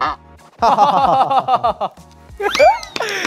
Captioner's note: laughing